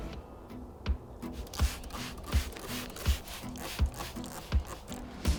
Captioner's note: soft rock music; spray bottle hissing